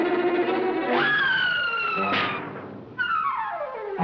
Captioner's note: air squeals; tense music continues